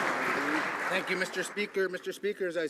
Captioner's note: some Applause